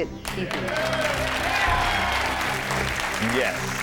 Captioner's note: audience cheers and applauds